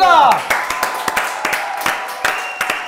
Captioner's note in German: Jubel, Applaus